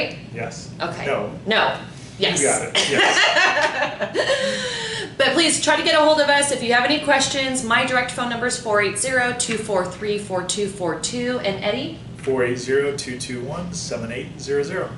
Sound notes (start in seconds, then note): 2.9 laughing